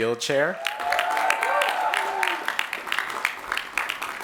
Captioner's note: applause